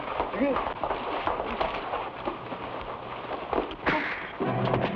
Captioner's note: footsteps patter; fist pounds; suspenseful music